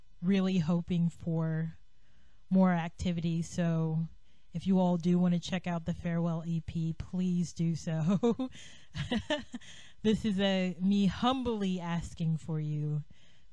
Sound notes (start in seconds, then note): 8.9 laughs